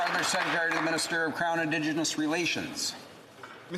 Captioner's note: applause